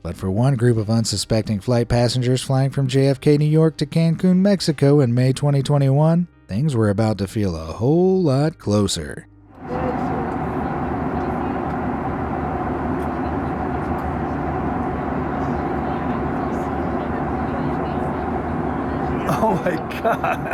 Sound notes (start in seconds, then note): 9.6 engine whirring; 9.6 passengers chattering